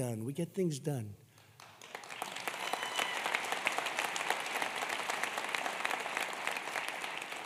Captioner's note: applause